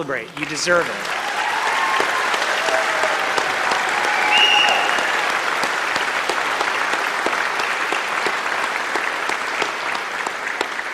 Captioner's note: applause